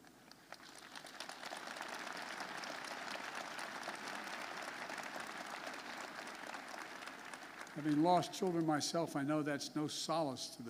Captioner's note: applause